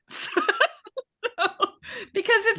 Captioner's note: laughing